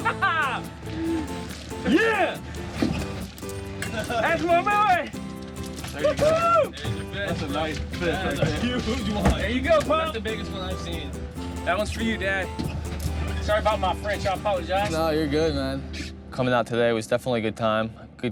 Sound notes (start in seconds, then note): 0.0 laughing; 5.9 joyful shouting